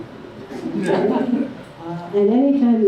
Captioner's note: laughter